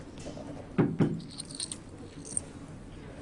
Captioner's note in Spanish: Toques en la puerta